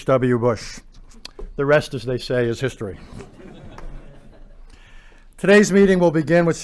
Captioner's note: laughter